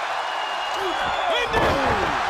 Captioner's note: crowd cheering